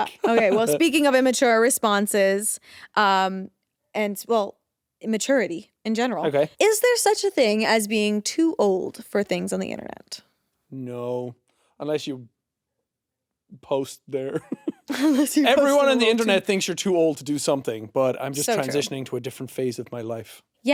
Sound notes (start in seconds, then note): 14.3 Jacksepticeye chuckling